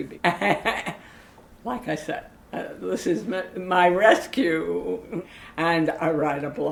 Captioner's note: laughs